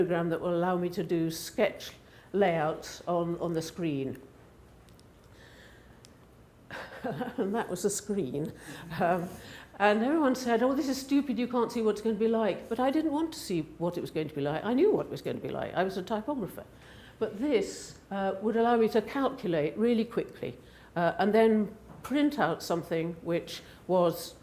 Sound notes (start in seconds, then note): 6.7 chuckles